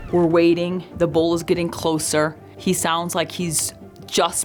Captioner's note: elk bugling